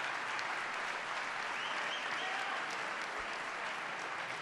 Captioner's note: applause